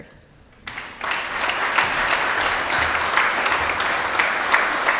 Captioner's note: audience applauds